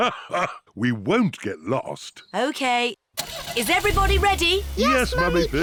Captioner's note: laughs